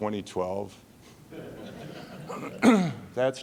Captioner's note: laughing